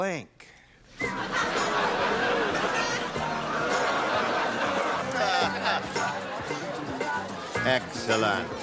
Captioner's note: laughter